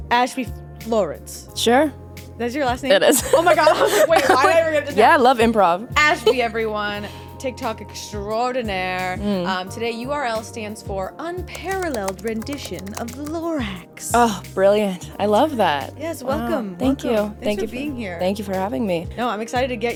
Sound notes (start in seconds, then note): 3.1 laughing